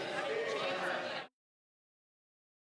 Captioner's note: chatter